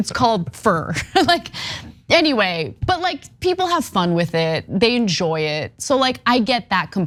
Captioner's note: laugh